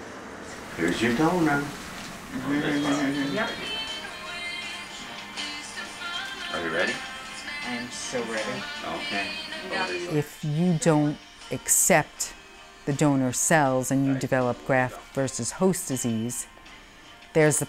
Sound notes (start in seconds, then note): 2.5 laughing